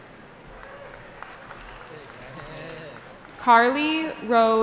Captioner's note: cheering